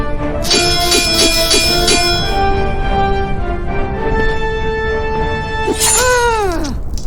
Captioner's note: electricity crackling; swords clanging; electricity crackling; Xu Xang grunting